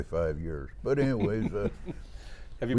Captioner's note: chuckling